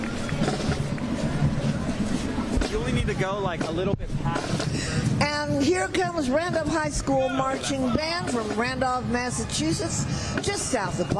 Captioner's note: applause